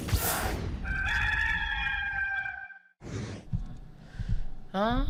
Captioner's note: rooster crowing